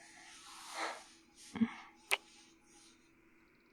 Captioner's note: kiss